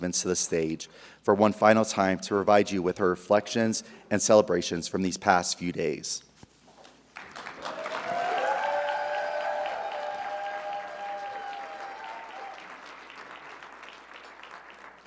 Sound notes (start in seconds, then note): 7.1 audience applauding; 7.3 audience cheering